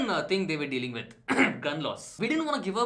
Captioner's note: ahem